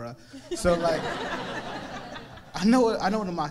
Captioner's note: audience laughing